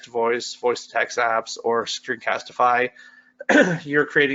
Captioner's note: coughs